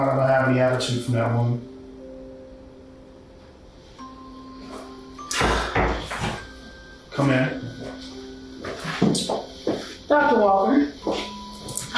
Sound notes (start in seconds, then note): 5.8 knocks on door